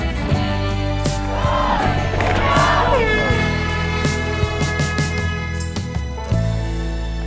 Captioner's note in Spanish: Suena bocina